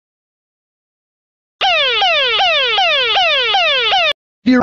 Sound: siren blared

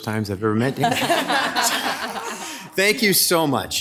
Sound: members laughing

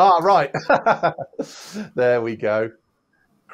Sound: laughs

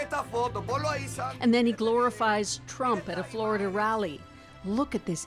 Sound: speaking spanish

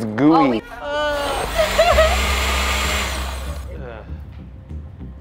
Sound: blender whirring

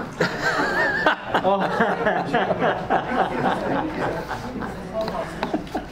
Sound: audience and panelists laugh

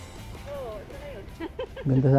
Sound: laugh

